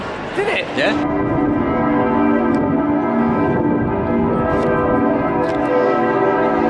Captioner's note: dong